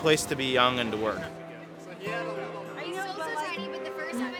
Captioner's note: chatter